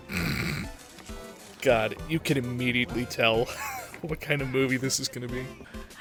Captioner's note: wheeze